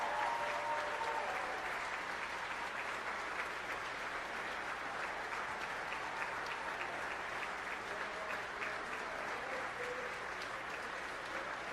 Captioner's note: applause